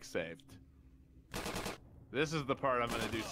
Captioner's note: gunshots